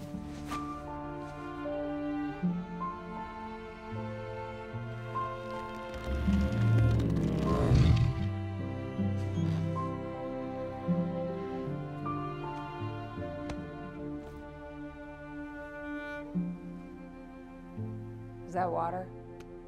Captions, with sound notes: *Growl* Is that water?